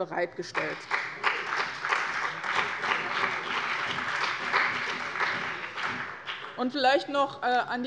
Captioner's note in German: Beifall bei dem BÜNDNIS 90/DIE GRÜNEN und der CDU